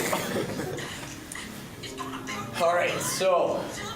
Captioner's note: laughter